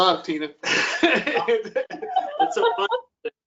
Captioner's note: laughter